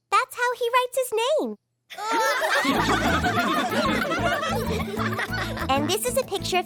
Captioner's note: laughing